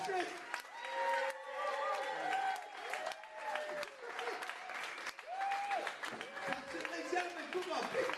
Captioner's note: applause and cheering